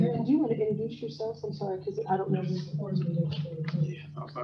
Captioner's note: speaker off microphone